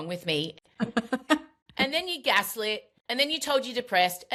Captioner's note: laughs